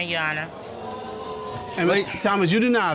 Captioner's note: audience exclaiming